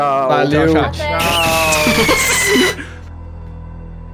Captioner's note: bass-boosted fireworks